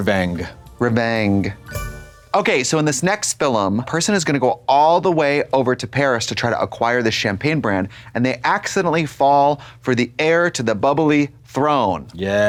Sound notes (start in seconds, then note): 1.6 bright chime